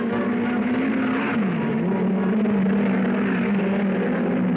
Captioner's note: cars revving